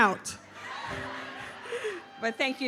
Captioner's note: audience laughs